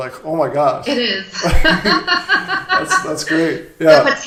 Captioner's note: both laugh